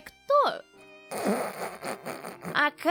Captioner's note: laughter